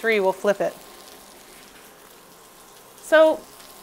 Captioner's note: fish sizzling